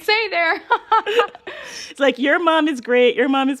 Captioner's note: laughter